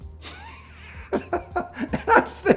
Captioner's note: he laughs